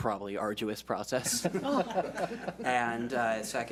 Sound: laughs

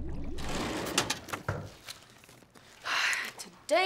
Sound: drawer opening

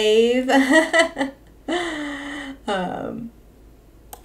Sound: laughs

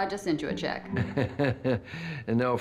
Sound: chuckling

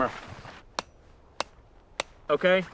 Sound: hammer tapping

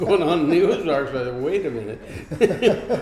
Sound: laughing; laughs

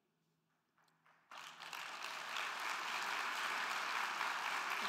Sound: crowd clapping

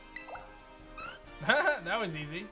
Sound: chuckles

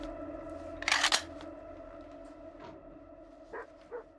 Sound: gun cock

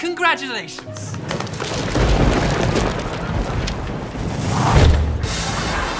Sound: thunderclap

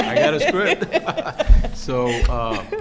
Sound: laughing

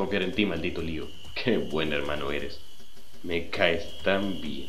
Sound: sarcasm

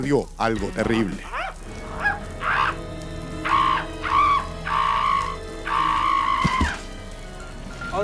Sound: screeeching

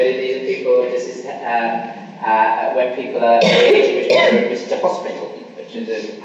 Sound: coughing masks speaker

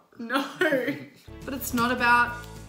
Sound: laughs

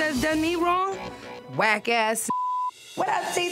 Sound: beep

